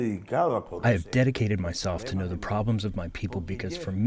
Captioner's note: through translator